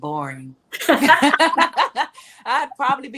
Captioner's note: ladies laughing